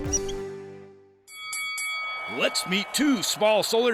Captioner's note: bell rings